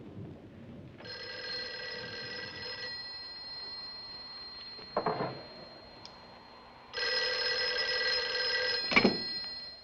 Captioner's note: telephone ringing